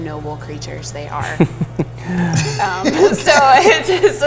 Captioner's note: laughter